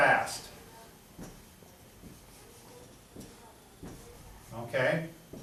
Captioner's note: pen writes on board